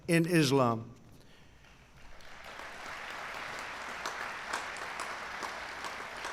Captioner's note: applause